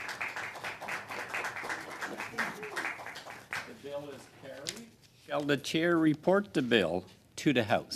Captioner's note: applause